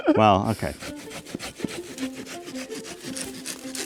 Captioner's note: knife sawing